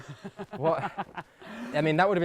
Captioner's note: laughs